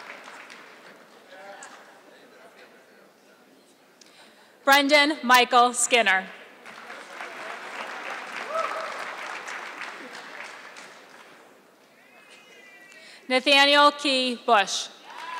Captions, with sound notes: Brendan Michael Skinner. (audience clapping) Nathaniel Key Bush.